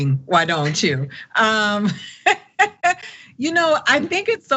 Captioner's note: laugh